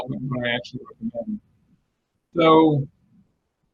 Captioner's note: distortion muffles the speaker